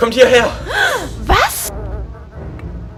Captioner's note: gasp